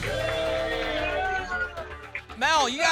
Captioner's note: applause and cheering